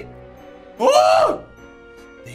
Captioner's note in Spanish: Sorprendido